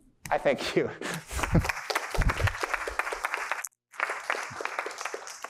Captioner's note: applause